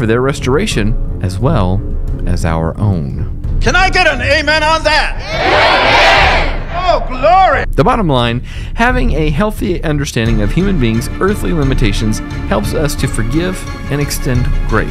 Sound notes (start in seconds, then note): 5.1 crowd cheers "amen!"